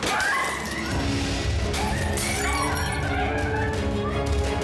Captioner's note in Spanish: ruido de cristales rotos